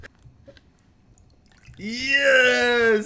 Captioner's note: water dripping